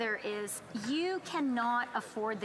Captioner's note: speaking French